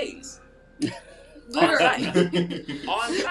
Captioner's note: laughing